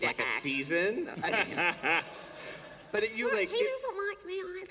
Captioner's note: laughter